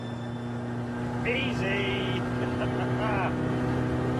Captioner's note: laughs